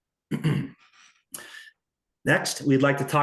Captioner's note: clears throat